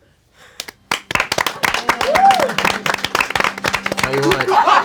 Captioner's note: crowd applauding; laughing